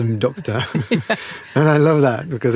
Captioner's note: laughs